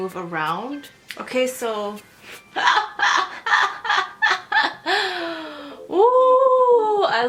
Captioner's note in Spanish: risas